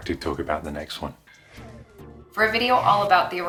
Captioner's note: woosh!